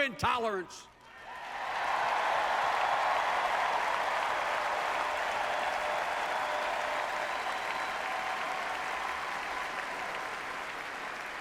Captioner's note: applause